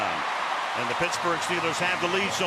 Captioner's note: cheering